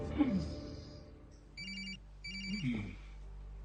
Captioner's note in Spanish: Suena un celular